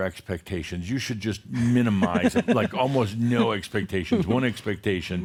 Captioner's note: she chuckles